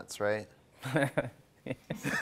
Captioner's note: laughing